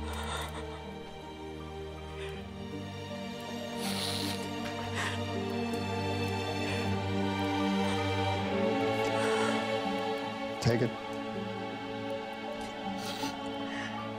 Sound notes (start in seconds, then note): 5.3 Nadia crying